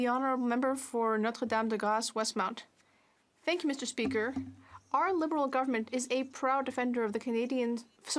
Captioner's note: speaking French